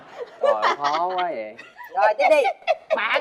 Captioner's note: laughing